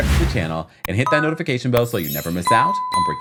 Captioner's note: logo whooshes; notification chimes; bell dings